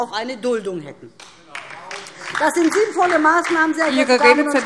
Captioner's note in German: Beifall DIE LINKE